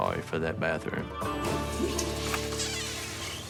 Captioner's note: toilet flushes